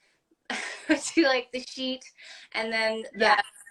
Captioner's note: laugh